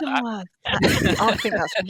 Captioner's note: laughter